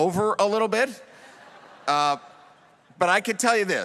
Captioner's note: audience laughs